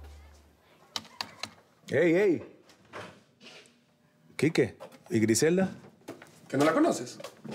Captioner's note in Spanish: Tecleo